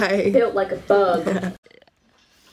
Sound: laughs

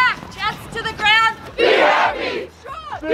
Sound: crowd

